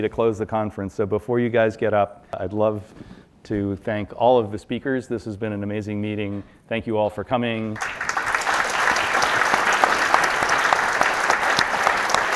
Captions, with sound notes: to close the conference. So before you guys get up, I'd love to thank all of the speakers. This has been an amazing meeting. Thank you all for coming. (audience applauding)